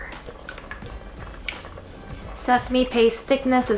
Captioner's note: spoon scraping